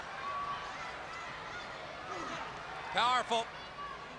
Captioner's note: crowd chatter